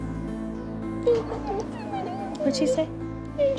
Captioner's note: speaks tearfully